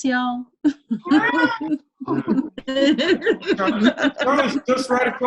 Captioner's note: laughs